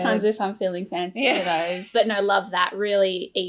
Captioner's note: laughs